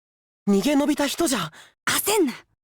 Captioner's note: whisper